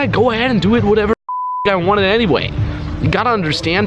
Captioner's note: beep